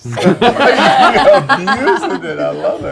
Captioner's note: laughter